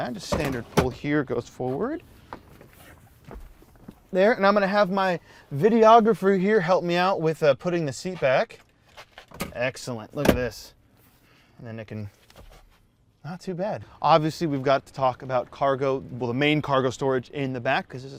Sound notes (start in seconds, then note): 10.8 seat clacking